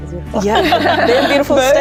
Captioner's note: all laughing